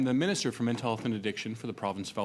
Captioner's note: speaking French